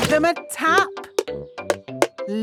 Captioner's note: taping